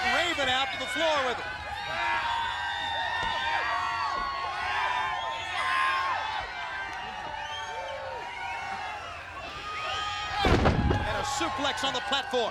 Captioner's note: applause